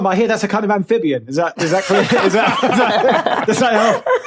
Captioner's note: group laughs heartily